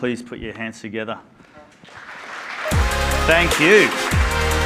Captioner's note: applause